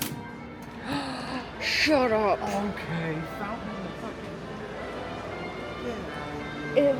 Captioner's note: gasps